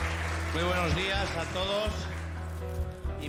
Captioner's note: berbicara bahasa spanyol